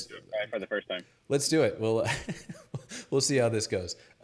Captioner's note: laughing